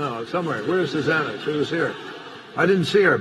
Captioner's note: laughter